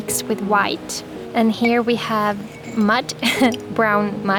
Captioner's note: laughter